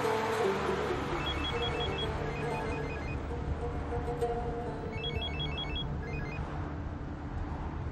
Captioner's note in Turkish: telefon çaliyor